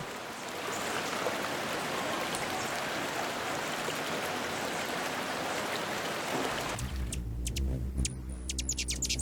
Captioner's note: river flowing; birds singing and chirping